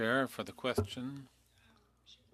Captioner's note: speaking French